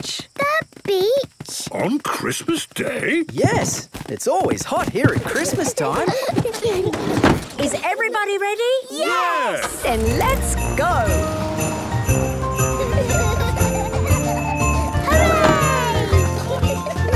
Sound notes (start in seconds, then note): 5.0 kids giggling; 12.0 kids laughing; 16.2 laughter